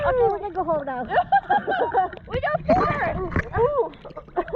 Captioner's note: yelling